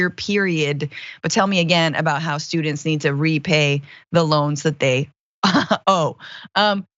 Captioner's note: laugh